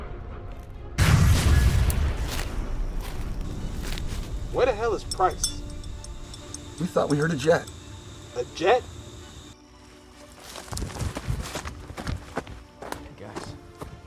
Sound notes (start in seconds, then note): 0.9 sound of explosion